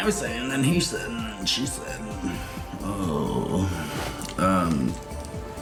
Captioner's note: groans